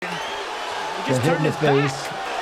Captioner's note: crowds cheer